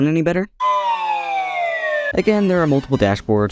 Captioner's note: Wheel of Fortune bankrupt noise